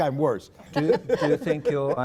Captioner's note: laughter